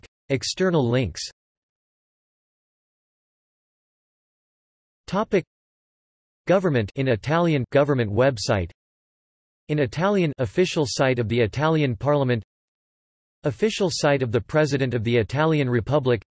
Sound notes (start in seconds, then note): 2.7 in Italian